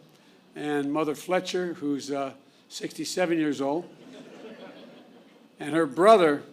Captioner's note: laughter